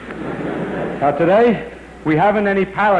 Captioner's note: laughter